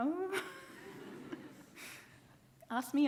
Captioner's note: laughs; audience laughing